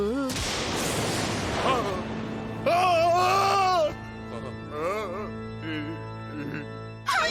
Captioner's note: groaning